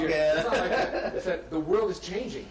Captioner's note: laughs